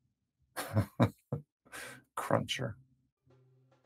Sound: laughs

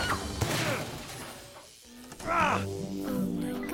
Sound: buzzing; grunts

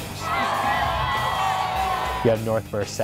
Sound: crowd cheers

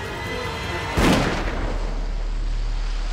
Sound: gunshot

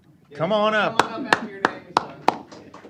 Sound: applause

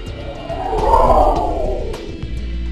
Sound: whizz By SE

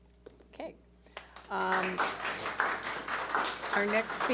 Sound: audience applauds

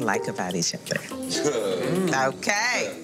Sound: group laughing

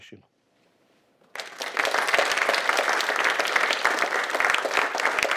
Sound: audience applauding

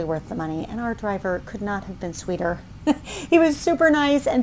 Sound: chuckles

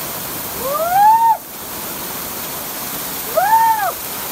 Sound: screaming

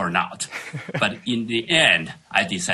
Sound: laughing

